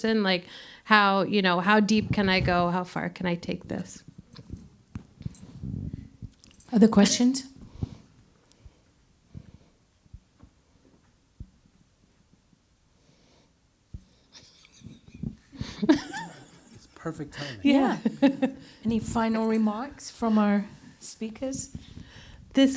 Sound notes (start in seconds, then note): 14.4 laughing